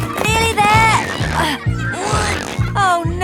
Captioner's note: grunting